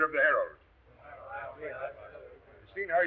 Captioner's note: members muttering